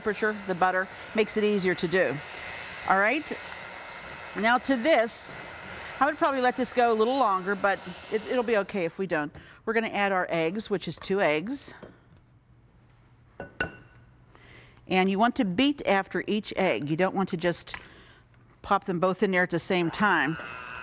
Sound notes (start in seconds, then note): 13.4 egg taps